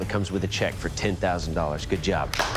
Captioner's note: applause